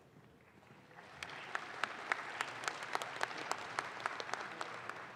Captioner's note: audience claps